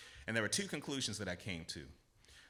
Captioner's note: none